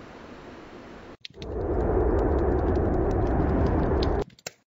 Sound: fish Flapping

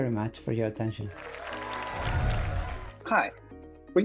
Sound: applause

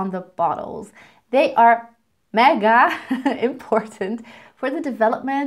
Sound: chuckles

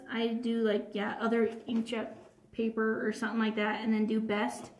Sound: none

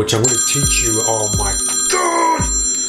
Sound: phone ringing

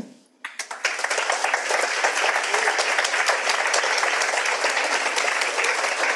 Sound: audience applauds

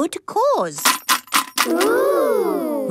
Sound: coins jangling

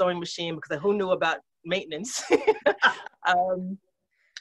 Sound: laughs

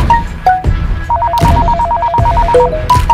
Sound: phone Ringing

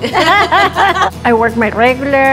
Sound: laughing

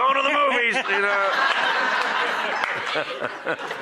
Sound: laughter

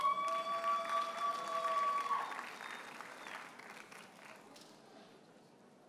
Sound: audience hollers and applauds

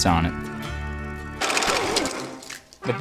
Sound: record scratch

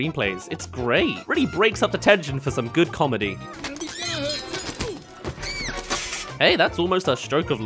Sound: nobody’s gonna hurt you-oof! *Lands

